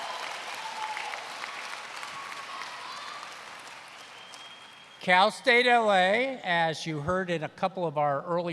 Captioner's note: applause